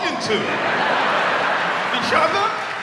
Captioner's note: audience laughs